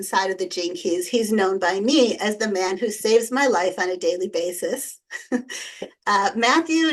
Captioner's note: chuckles